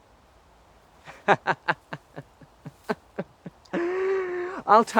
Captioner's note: laughs sarcastically